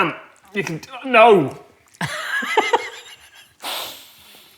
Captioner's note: wheezes